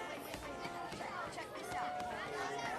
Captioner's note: none